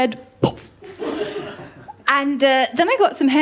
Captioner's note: laughter